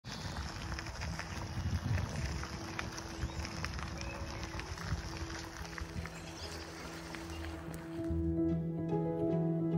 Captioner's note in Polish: Aplauz